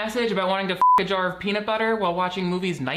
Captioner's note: beeps